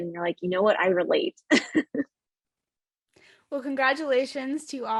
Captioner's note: laughs